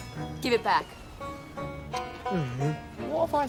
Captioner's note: groans